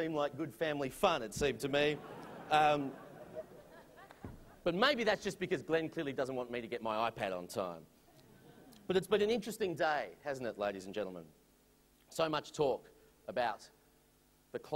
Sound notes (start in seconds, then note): 1.8 laughter